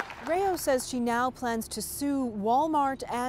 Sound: applause

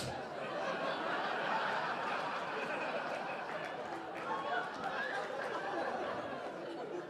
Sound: audience laughing

